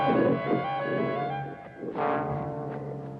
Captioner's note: growling